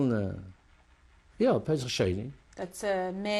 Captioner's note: non-english